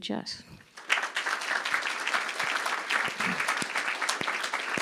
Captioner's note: crowd applause